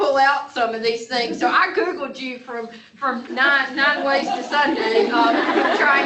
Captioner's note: laughter